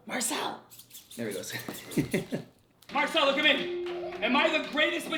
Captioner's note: laughs